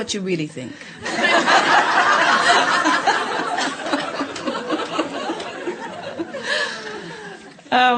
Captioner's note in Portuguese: Audiência e convidada riem